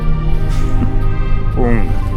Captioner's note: chuckle